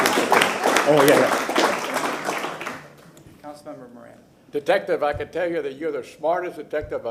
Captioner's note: applause